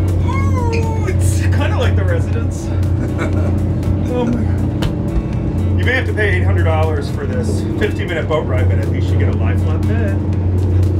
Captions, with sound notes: Oh, it's kind of like a residence. (chuckling) You may have to pay $800 for this 50-minute boat ride, but at least you get to lie on a bed.